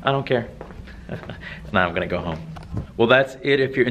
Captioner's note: laughs